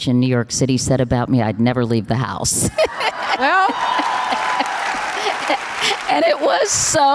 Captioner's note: audience applause